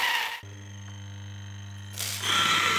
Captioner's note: grinder grinding